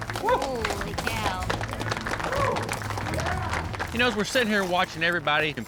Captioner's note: applause